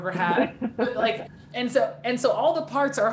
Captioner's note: laughing